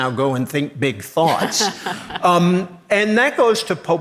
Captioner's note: laughs